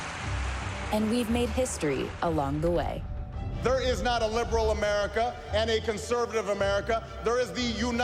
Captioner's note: applause